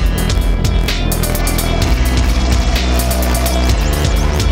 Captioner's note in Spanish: ruido de helicóptero sobrevolando